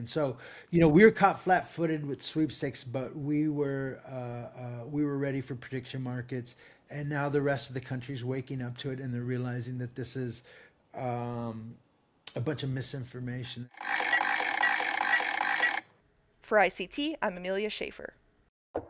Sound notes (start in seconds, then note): 13.7 slot machine rattling